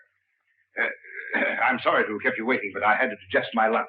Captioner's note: coughs